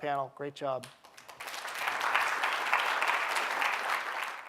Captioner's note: audience clapping